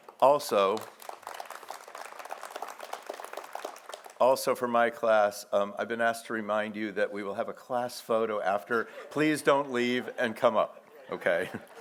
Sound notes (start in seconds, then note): 0.0 audience applauds